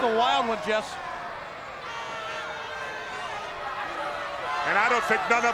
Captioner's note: crowd yelling